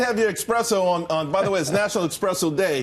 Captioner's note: laughter